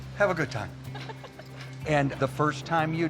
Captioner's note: laughs